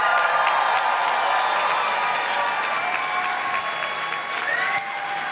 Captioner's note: audience cheers and claps